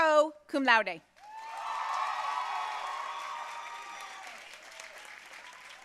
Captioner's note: audience cheering and applauding